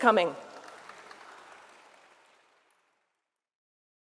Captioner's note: audience applauds